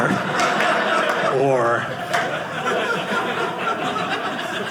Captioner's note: audience laughing